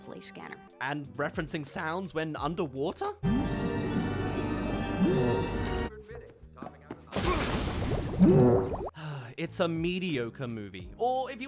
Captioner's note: sigh